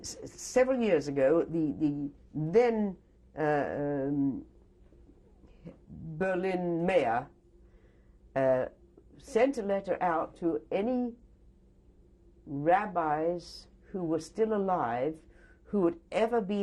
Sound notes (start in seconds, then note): 3.0 pauses for 3 seconds